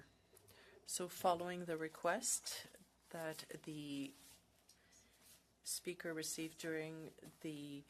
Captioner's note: speaking French